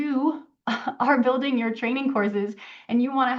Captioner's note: laughs